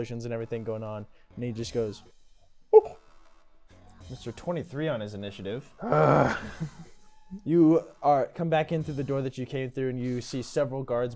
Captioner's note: whoop